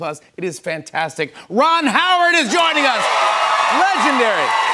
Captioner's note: cheers and applause